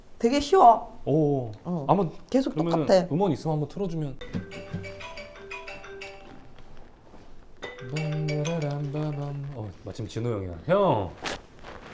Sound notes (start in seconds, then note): 4.2 ringtone